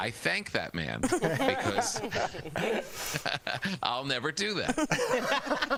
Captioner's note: laughter